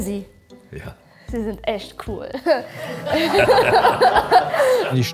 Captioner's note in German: Lachen